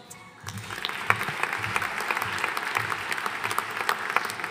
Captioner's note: audience applauding